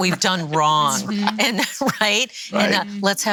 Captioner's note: laughs